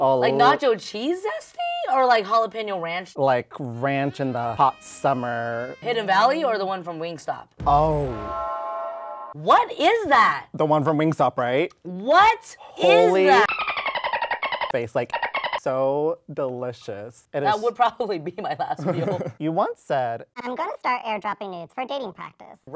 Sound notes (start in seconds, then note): 13.2 dolphin chirping